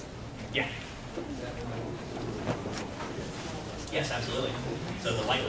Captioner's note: mumbling from audience